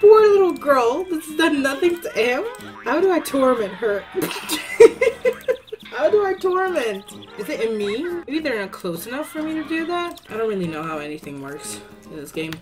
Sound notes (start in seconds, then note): 4.2 laughs